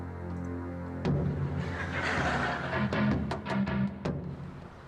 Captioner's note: daunting music; audience laughing